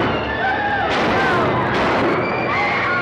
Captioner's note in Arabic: صوت طلقات نارية; الرجال يصرخون; موسيقى درامية